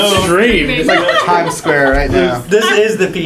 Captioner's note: laugh